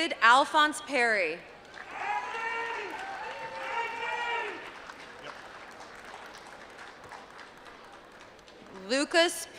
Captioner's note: applause